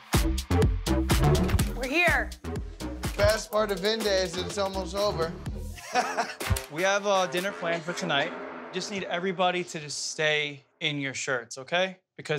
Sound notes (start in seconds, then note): 5.7 Pauly laughs